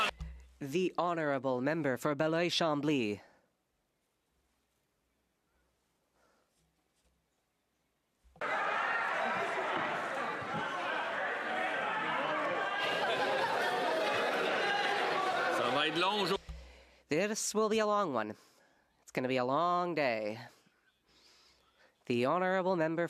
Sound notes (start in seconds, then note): 4.0 speaking French